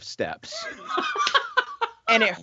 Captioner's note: laughing